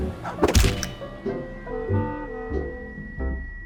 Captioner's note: heart thumps; soft music